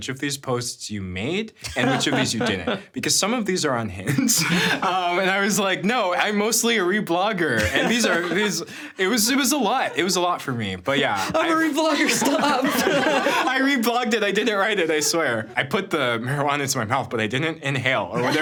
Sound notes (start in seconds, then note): 1.6 laughing; 4.1 chuckling; 8.3 laughing; 12.8 everyone laughing; 18.2 everyone laughing